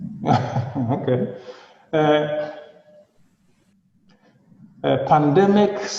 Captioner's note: laughing